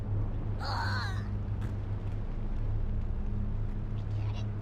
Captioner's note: sob